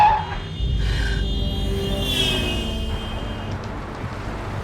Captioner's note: tires screeching; car horn honking loudly